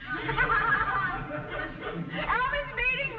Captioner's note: laughs; audience laughing